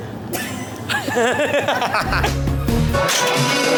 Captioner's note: chuckles; laughing